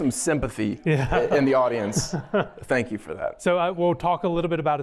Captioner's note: laughter